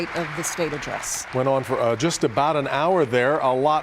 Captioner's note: applause